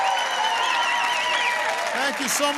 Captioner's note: applause